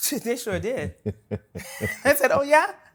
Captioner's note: laughter